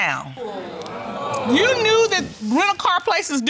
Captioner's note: audience groaning